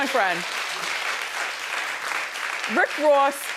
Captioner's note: audience clapping